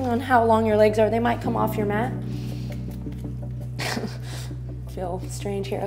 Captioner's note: chuckles